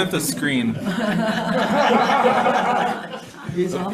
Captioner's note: people laugh